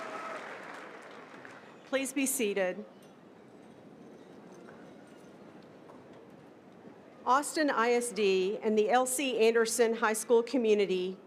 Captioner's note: cerinand applause